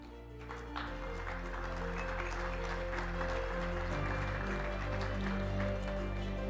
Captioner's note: audience applauding; gentle music